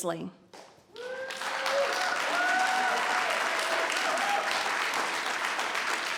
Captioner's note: cheering and applauding